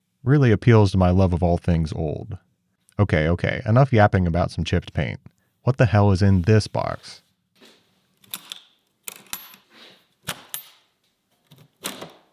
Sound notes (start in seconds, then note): 8.2 latches clanking